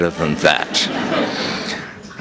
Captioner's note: laughter